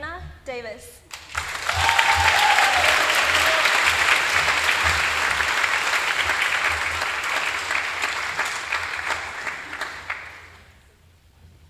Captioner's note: applause